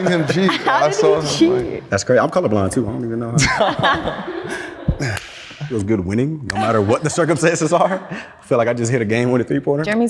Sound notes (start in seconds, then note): 0.0 all laughing; 3.3 all laughing